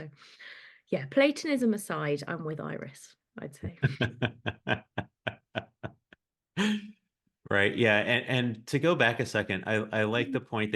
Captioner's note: polite laughs